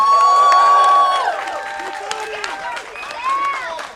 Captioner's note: crowd cheering